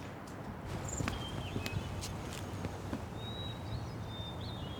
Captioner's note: birds singing